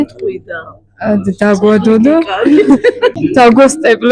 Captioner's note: lecturer giggle